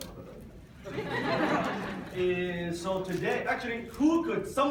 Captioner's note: audience laughs